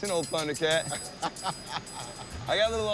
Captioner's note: laughs